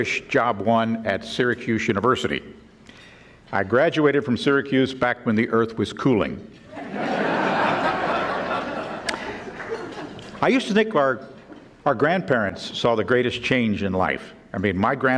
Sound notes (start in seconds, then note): 6.7 audience laughing